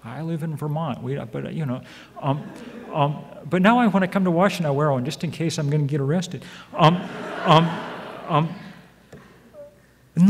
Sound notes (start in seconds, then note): 6.7 audience laughs